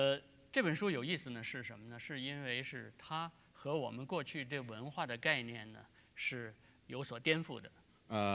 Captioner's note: speaking in Chinese